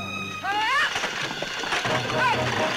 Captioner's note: Ellen shouts; exciting music